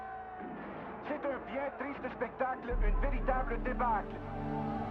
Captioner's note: radio